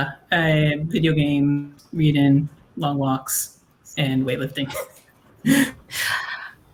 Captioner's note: laughs